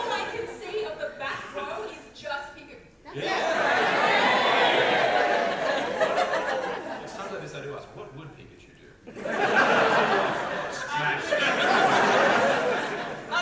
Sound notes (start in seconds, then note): 3.2 audience cheer